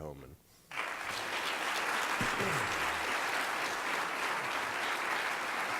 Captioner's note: applause